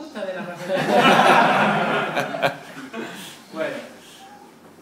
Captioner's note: laugh